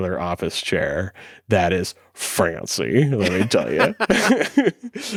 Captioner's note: laughs